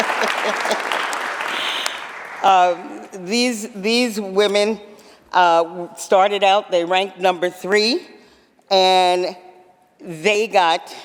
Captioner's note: applause